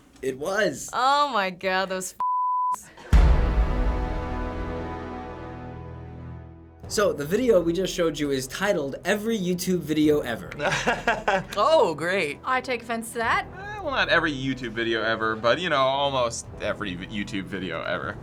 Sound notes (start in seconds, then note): 3.1 dramatic chord; 10.6 laughs